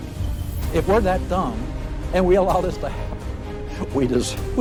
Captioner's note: laughs